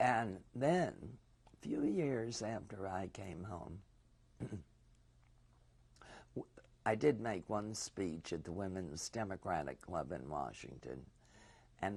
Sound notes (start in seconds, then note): 4.4 pauses for 3 seconds